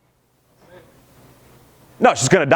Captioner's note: crowd murmurs